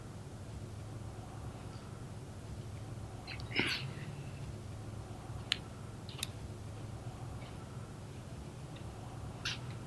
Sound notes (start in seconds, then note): 3.3 snipping